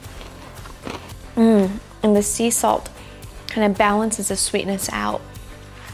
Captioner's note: chewing noise